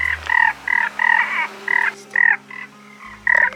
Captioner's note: frog noises